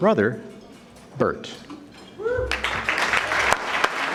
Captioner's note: audience clapping